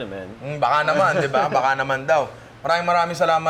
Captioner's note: laughs